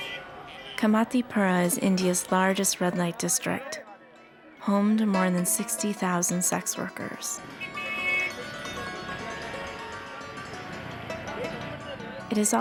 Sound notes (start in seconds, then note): 7.4 vehicle horns honking